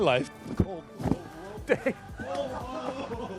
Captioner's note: giggling